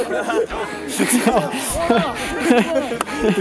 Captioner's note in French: rires